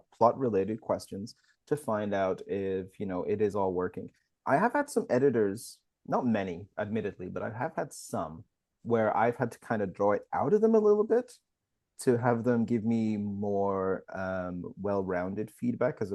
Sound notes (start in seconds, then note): none